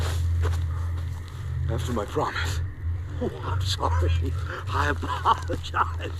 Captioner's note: laughs